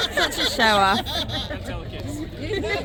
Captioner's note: laughter